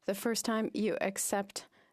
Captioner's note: speaking French